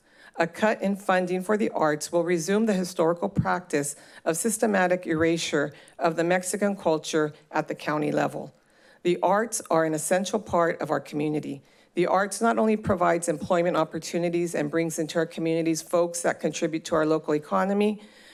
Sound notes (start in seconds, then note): none